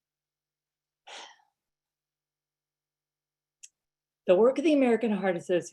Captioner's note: takes deep breath